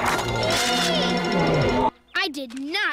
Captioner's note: squeals